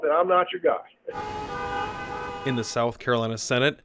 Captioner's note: car horns honking